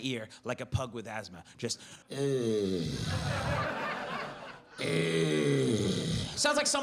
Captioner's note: heavy breathing